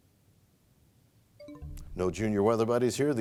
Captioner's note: bell chimes, time expires